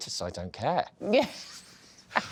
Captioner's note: laughs